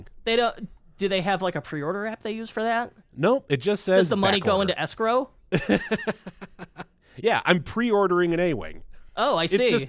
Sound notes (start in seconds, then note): 4.2 laughing